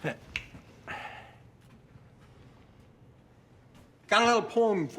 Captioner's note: Blue snaps his fingers